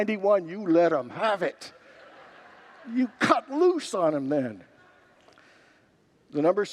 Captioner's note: congregants laugh